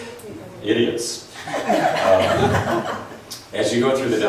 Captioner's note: laughs